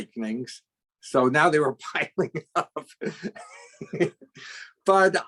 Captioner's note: laughs